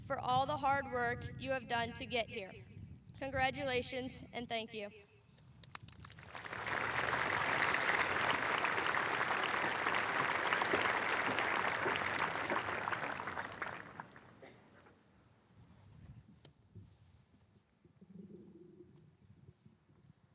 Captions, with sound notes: for all the hard work you have done to get here. Congratulations and thank you. (applause)